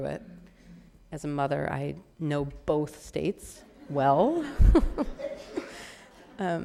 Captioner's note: laughing